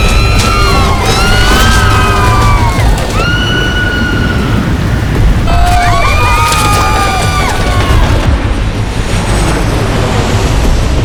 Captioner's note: screaming